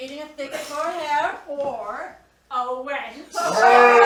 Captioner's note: bawdy laughter